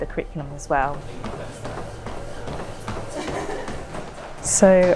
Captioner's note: feet thumping